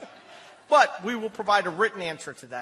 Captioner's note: laughter